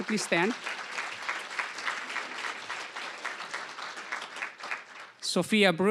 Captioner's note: applause